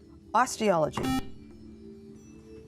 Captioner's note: beeping